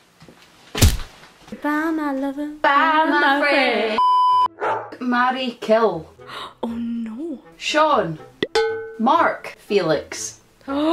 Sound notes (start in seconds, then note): 6.2 gasp